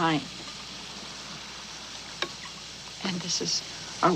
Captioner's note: water running